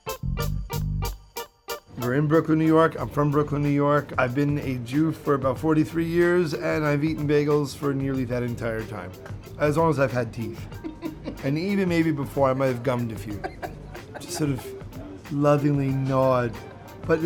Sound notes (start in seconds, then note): 10.6 laughing